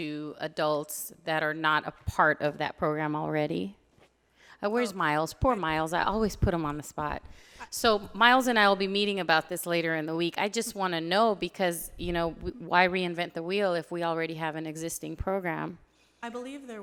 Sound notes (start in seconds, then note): none